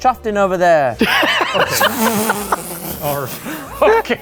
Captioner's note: laughing